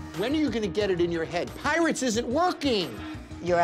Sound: none

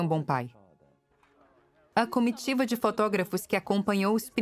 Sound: voiceover

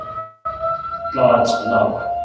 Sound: siren

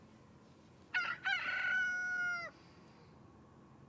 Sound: rooster cawing

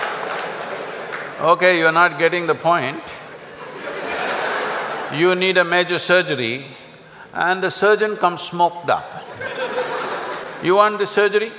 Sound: laugh

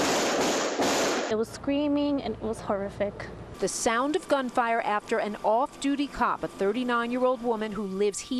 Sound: gunfire

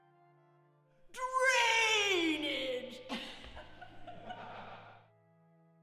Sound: laughing

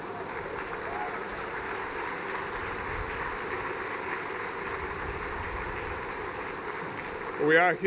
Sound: cheers and applause

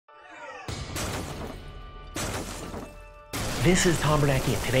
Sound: crashing sound

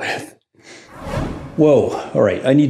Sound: air whooshing

